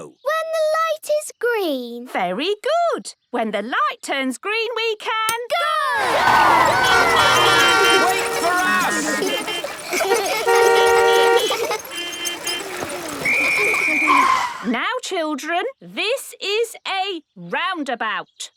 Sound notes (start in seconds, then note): 7.3 beeping; 9.1 laughter; 9.7 beeping; 9.7 laughter; 13.1 whistle blowing